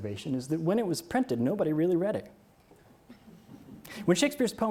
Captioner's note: audience chuckles